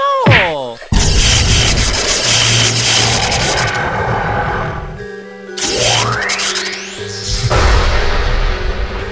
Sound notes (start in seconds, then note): 0.9 electrical noise